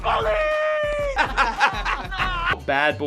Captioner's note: laughter